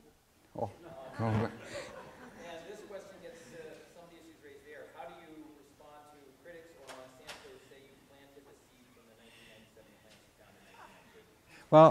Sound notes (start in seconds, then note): 0.8 laughter